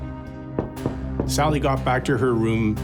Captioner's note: knocking